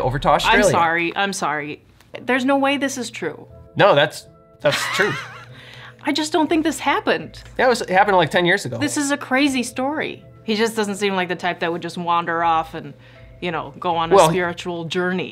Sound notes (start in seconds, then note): 4.7 laughter